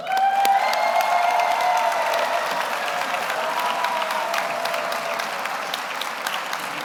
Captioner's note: audience applauds; audience cheers